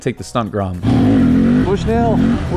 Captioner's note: motorcycle engine roaring